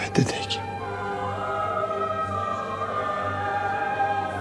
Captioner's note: speaks albanian